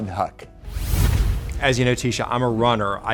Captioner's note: logo whooshes